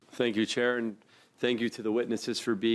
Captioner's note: speaking in French